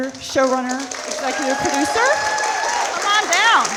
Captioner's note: audience applauding